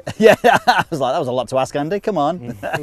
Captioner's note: laughs